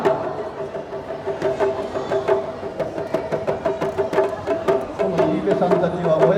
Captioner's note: speaking in foreign language